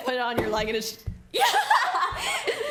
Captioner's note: laughs